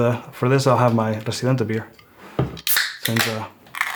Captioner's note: can pops